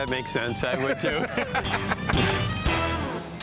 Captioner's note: laughter